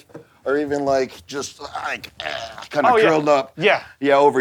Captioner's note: gargle